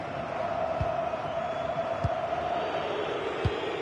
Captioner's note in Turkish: coşkulu tezahürat